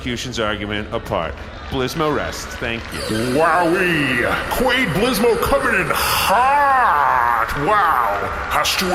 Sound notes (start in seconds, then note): 2.9 audience applause; 2.9 laser sound effect